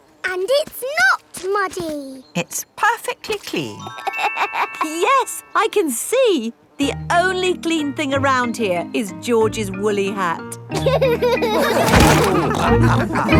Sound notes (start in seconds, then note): 4.4 laughs; 10.8 all laughing